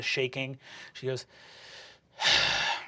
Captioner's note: sighing